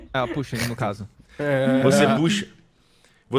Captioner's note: laughs